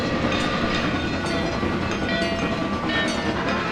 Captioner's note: MEC J Class whistle; wig wag railroad crossing bell; NH I5 whistle